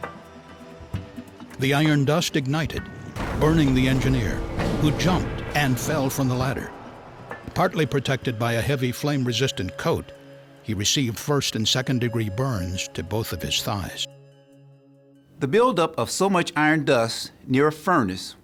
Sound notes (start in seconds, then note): 3.1 sound of explosion